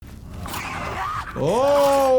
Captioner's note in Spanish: Senua gritando; monstruo rugiendo